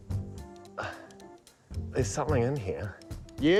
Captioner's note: strains